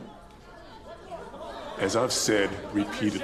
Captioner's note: people clamoring